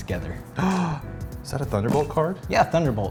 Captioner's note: gasp